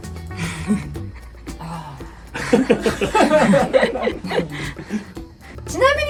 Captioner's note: laughing